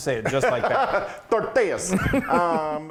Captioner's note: laugh